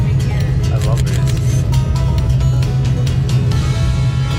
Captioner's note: camera shutter